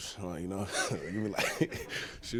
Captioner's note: chuckles